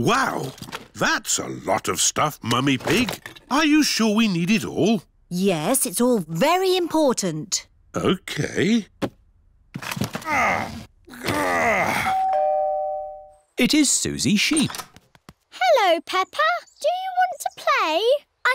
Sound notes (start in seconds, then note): 10.2 groans; 12.1 doorbell rings